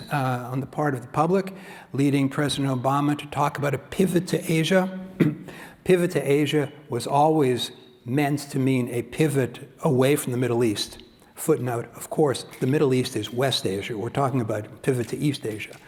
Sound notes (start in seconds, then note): 5.1 cough